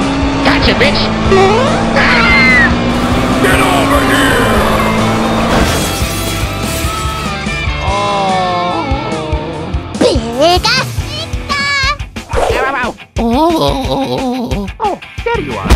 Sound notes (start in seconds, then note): 1.9 both scream